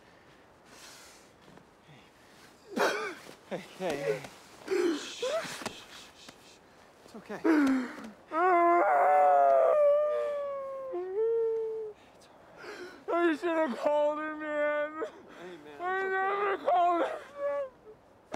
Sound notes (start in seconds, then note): 2.6 sobbing; 4.6 shushing; 7.4 sobbing